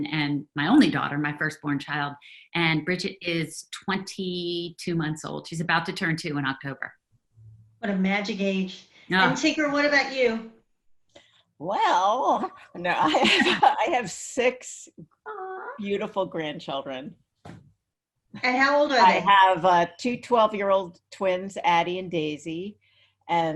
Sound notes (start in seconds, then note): 12.5 laughs